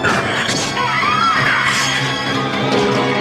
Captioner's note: screams